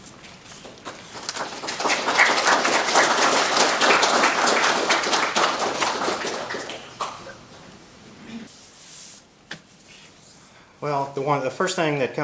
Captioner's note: applause